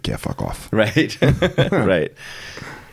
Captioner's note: laughing